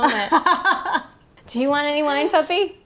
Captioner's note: laughing